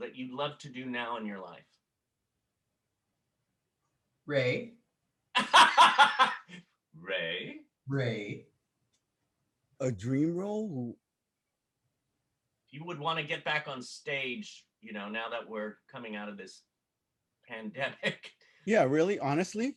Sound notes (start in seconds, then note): 5.3 laughter